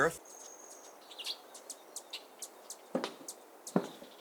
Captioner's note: bird chirps